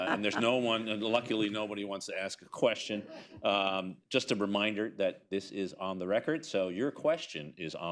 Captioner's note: laughter